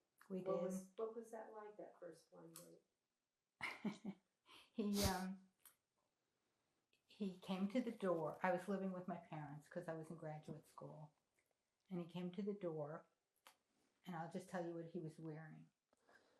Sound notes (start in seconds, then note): 5.9 laughing